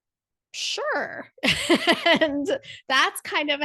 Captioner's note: laugh